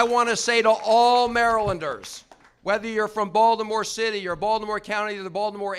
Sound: applause

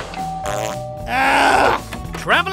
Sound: door crashes; doorbell rings; farts; groaning

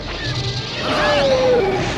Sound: lasers firing; hooting; explosion

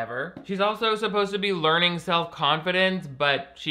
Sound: none

